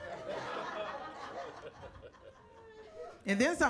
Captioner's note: audience laughing